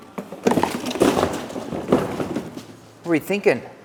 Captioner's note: boxes slam